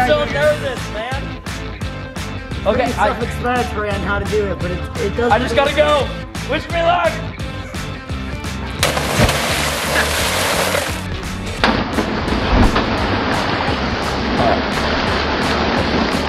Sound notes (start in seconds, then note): 8.8 water splashing; 11.5 slow motion water splashing